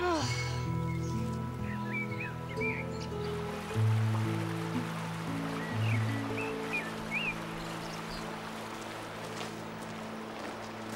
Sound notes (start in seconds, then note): 0.2 groaning; 3.6 birds chirping; 3.6 water running